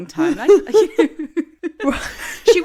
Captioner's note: laughing